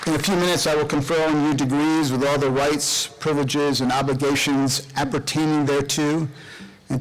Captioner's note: applause